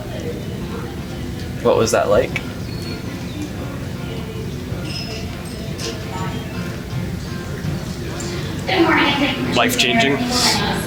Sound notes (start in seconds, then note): 3.7 airport noises in the background; 10.4 laughs